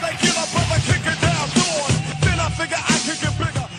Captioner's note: applause